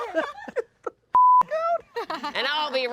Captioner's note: everyone laughs; beep